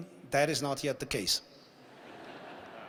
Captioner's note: laughter